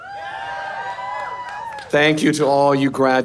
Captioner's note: audience cheering